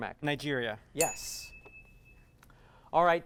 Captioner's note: ding